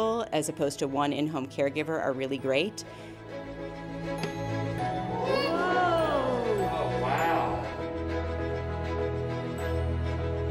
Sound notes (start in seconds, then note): 3.5 upbeat music; 5.0 crowd cheering; 7.9 upbeat music